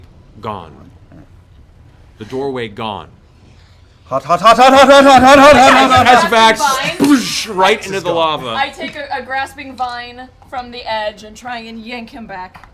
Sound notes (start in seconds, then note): 5.9 splashing